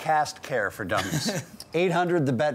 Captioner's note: laughing